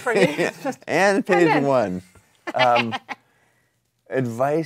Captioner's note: laughs